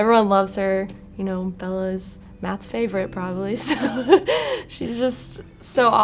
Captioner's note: laughs